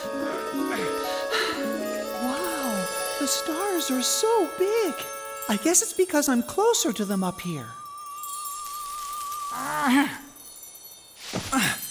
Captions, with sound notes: WOW, THE STARS ARE SO BIG. I GUESS IT'S BECAUSE I'M CLOSER TO THEM UP HERE. [ Grunt of effort ]